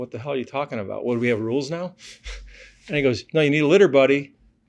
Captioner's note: laughs